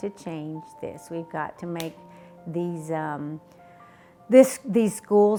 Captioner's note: smack hands